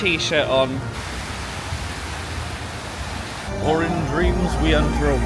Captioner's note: water rushing